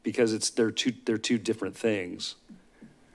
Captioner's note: none